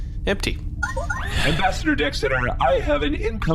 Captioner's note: incoming transmission chimes